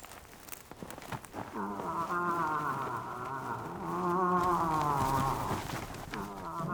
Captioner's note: moose calling